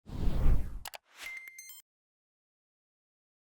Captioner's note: air whooshing